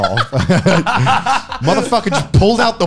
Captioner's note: laughing